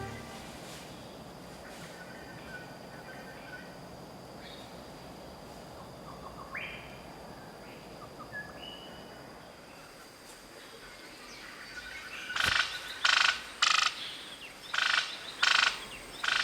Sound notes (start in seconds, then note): 1.2 birds chirping